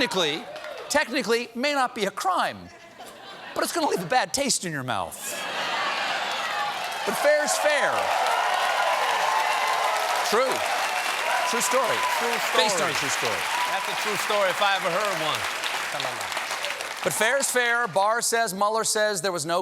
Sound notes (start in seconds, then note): 2.7 laughter; 5.2 laughter; 10.2 cheers and applause